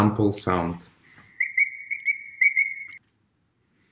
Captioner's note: bird sounds